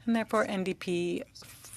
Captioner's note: speaking French